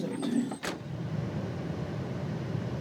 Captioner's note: door latches shut; car tires hum